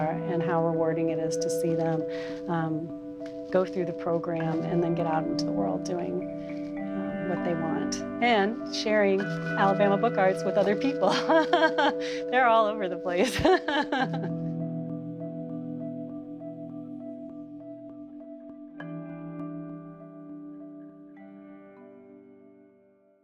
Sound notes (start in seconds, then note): 11.1 laughs; 14.5 mellow percussion music